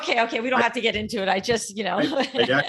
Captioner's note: laughing